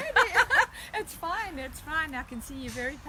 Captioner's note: laughing